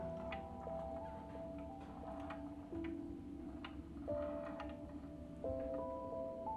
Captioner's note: gentle music; ball rolling